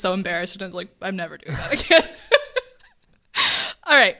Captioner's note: laughs